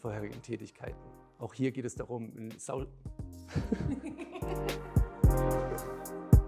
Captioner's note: laughs